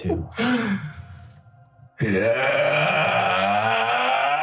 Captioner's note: menacing Yelling